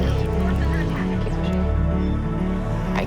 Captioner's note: distant chatter